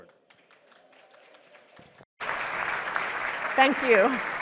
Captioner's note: audience clapping